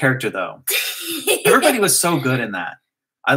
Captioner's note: laugh